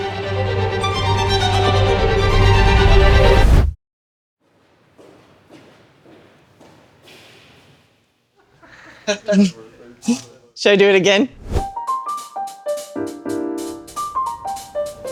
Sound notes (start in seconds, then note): 0.0 dramatic music; 9.0 crew laughing; 11.7 gentle upbeat music